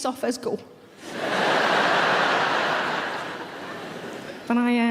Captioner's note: audience laughing